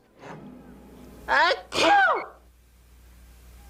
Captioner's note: sneeze